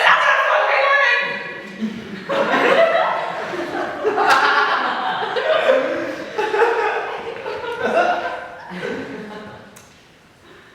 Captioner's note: audience laughs